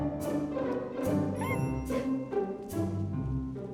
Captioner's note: squeaks